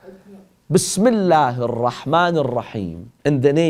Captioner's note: Arabic